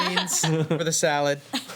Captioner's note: laughing